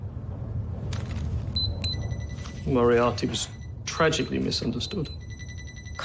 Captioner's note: beeping